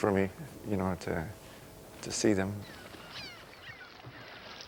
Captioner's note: birds chirping